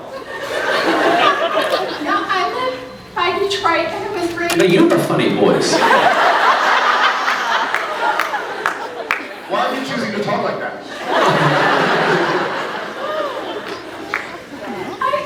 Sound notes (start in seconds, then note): 0.0 scattered laughs; 2.0 croaks; 5.7 laughs; 10.9 laughs; 12.7 scattered laughs